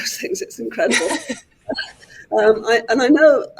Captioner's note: laughs